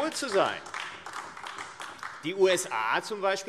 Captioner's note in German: Beifall AfD